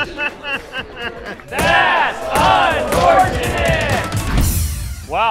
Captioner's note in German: lacht